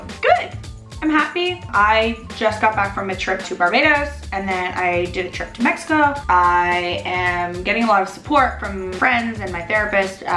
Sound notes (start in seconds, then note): none